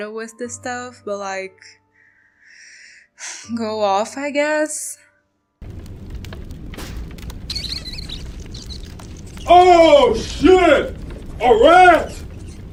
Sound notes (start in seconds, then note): 2.4 sigh; 5.6 crumbling tomb ambiance; 7.3 squeak squeak